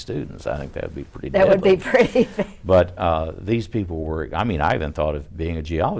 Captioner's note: laughs